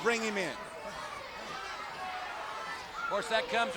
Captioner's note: audience cheering